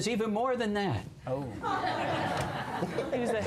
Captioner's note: laughter